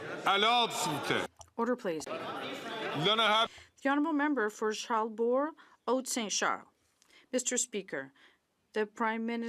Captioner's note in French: voix de l'interprète